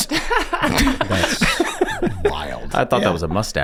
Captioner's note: gang laughing